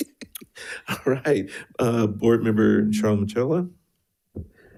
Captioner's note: laughs